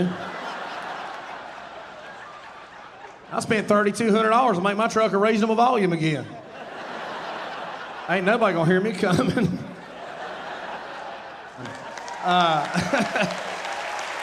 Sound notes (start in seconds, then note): 0.0 audience laughing; 6.6 audience laughing; 9.7 audience cheering and applauding